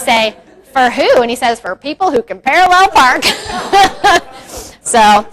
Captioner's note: crowd laughs; laughs